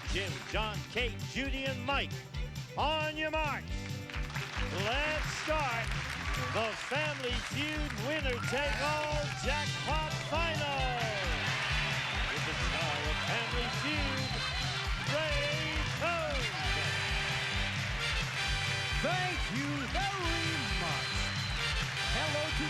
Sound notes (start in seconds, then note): 17.6 cheers and applause